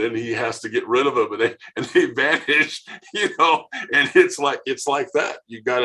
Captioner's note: laughing